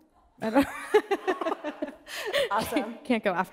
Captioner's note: laughing